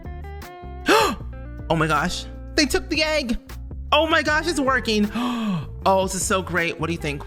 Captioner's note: gasp